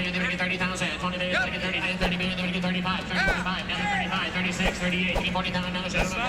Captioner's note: auctioneer chant